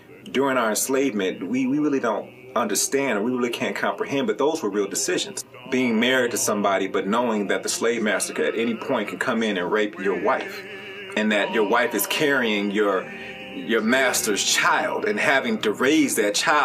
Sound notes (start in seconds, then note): none